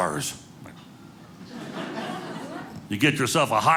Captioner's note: audience laughing